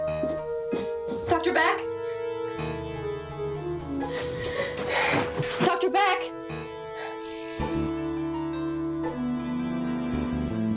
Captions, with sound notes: (footsteps tapping) Dr. Beck? (Margaret sighing) Dr. Beck? (dramatic music)